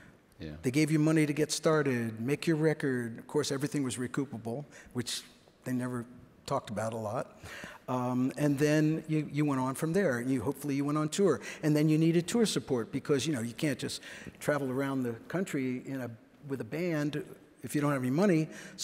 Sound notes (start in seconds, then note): none